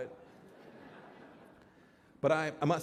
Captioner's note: laughter